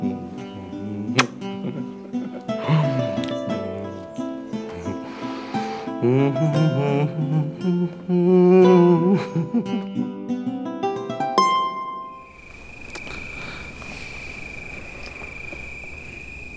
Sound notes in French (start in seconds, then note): 5.8 chantonne; 10.7 bruit d'insectes nocturnes